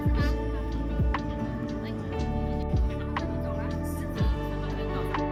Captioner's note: laugh